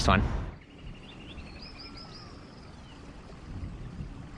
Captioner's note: birds chirping